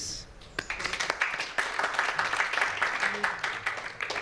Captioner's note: applause